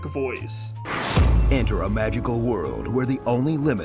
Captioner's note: epic sound effect